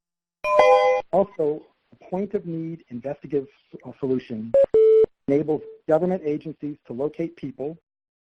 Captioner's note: computer tone